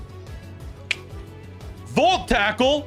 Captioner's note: clicking tongue